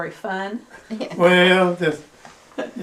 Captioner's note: laughs